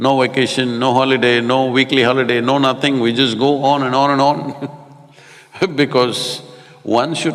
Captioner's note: laughs